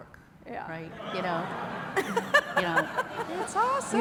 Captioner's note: laughter